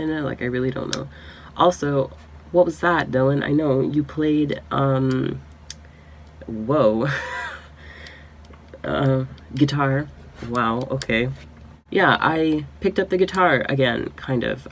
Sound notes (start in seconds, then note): 7.4 laughs